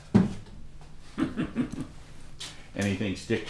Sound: chuckling

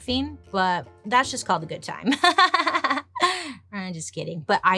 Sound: laughs

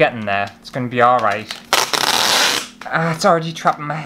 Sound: tape Peeling

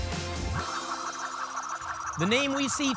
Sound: spinning sounds

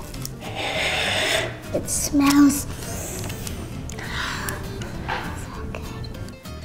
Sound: sniffs; sighs

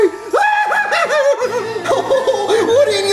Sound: screams

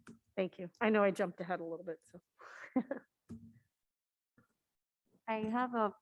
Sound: laughs

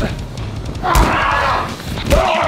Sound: loud smack; yelling

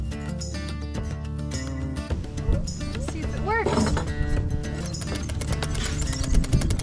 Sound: gears clicking

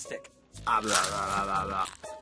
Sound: chomping

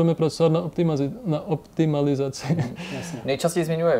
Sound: laugh

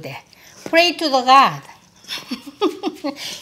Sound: laughs

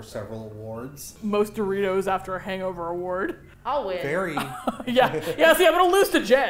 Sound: laughs

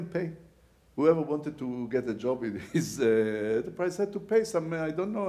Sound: laughs

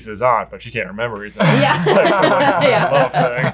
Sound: laughs

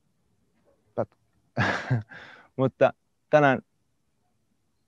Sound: laughs

